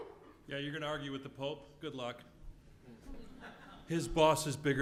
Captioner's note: laugh